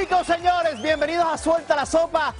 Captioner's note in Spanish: aplausos